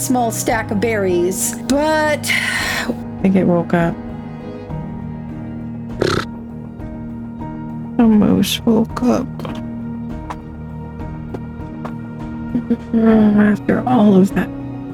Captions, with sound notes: small stack of berries. But... I think it woke up. [frustrated sound] The moose woke up. Ugh, after all of that.